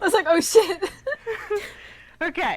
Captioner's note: amused giggling